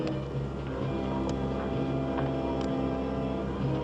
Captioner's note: clicking